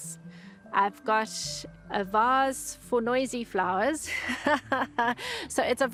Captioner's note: laughs